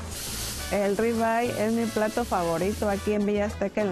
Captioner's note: speaking Spanish